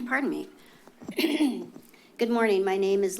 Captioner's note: clears throat